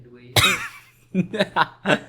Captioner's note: laughter; wheeze